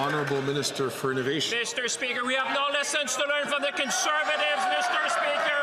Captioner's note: some Applause